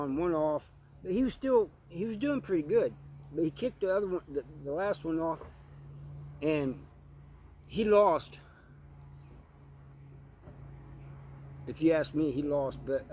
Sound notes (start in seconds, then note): 8.4 annoying Mower Sounds